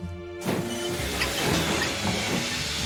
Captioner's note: engine chugging